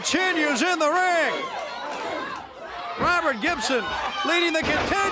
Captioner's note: crowd cheering